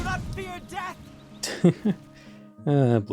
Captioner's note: gentle laughter